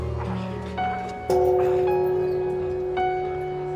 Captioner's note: gong clanging